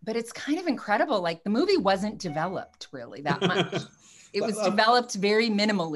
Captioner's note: laughs